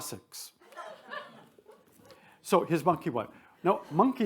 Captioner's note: attendees laugh